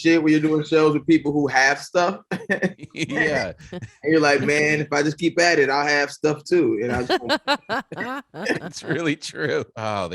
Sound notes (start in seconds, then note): 6.8 laughing